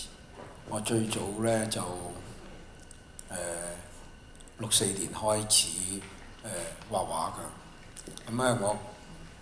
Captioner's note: Cantonese